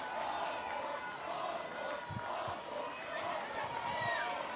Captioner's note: crowd chanting